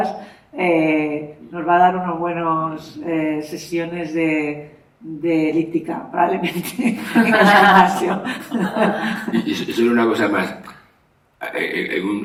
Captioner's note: laughs